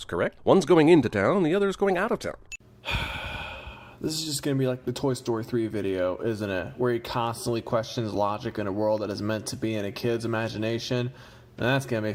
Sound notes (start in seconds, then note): 2.8 sigh